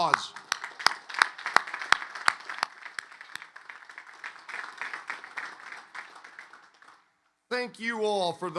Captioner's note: applause